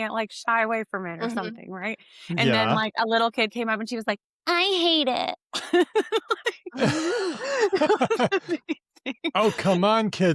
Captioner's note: laughter